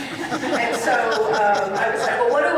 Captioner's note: audience laughing